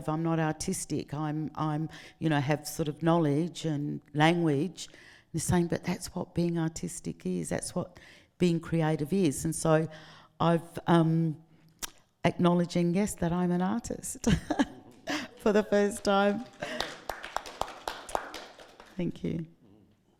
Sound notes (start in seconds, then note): 14.2 laughing; 16.9 audience clapping